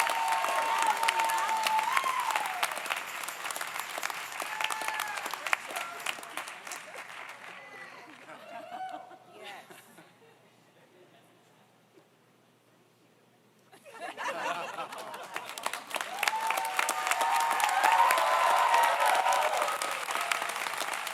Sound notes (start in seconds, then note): 13.8 group laughs; 14.6 audience applauds; 15.6 audience cheers